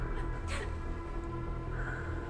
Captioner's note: Emma crying; ominous music